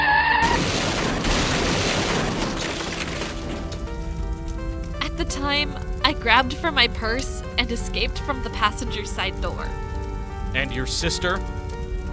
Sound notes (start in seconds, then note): 0.4 crash!; 0.4 tires screeching!; 3.3 fire crackling